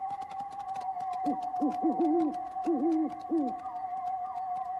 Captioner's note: insects chirping; owl hoots